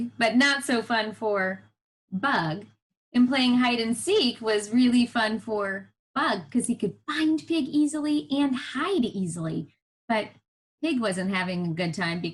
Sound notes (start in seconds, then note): none